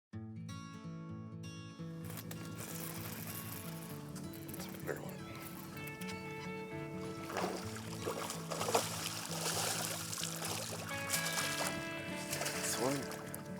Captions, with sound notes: (upbeat music) - That's a big one. (upbeat music) (water splashing) (upbeat music)